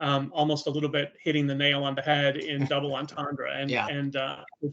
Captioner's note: chuckling